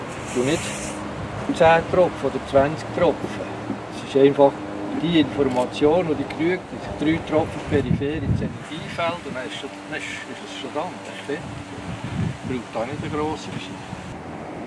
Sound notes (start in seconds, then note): none